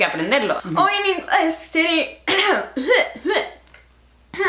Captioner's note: cough